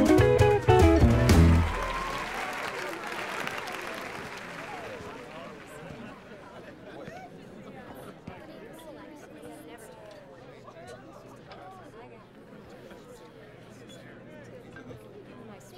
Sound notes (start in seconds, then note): 0.7 audience applauding; 1.7 crowd cheering